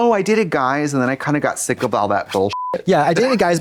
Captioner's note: beep